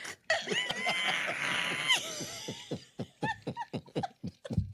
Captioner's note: both laughing